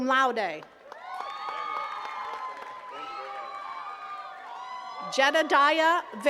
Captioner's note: attendees cheering and clapping